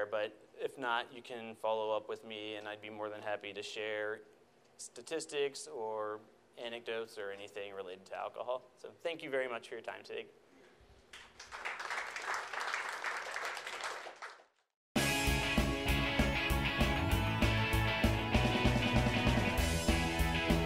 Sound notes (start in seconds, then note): 11.1 audience applauds; 15.0 upbeat electronic music